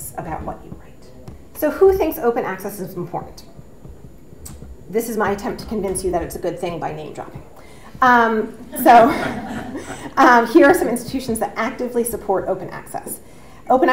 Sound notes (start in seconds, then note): 8.6 audience laughs